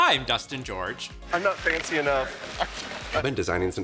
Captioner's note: chuckles